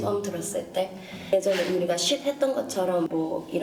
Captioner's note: Shhh